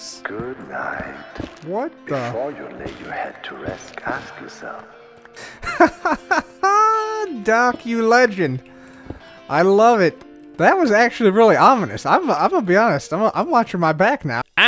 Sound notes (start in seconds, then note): 5.4 laughs